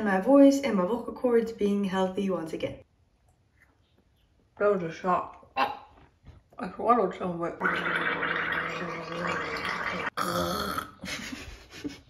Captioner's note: gargling